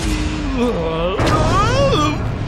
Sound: groans

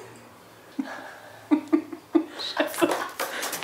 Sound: she laughs

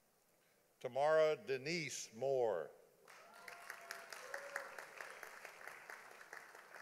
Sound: audience applauding

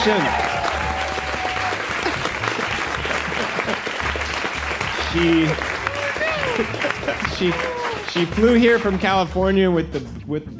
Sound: applause

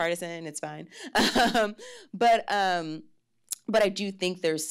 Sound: laughs

